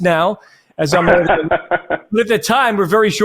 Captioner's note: laughs